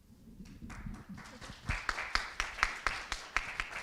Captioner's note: applause